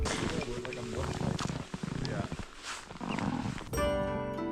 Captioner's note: snow crunching; gentle music